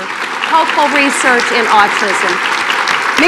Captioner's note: applause